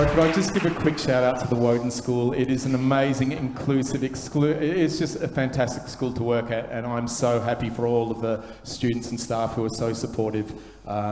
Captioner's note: applause